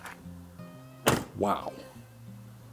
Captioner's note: car door slams shut